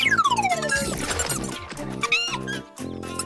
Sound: giggling

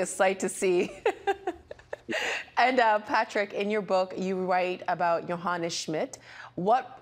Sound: laughing

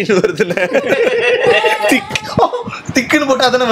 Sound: laughs

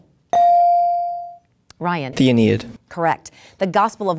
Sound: dinging

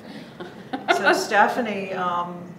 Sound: giggles

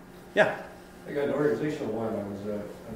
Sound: voiceover

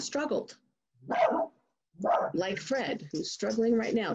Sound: dog barks

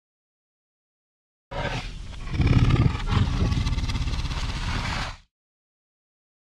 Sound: growl

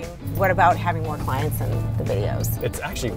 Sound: none

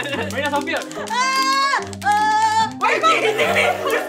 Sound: anxious noises

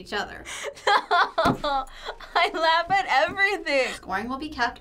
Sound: laughs

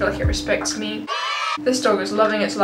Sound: children cheering

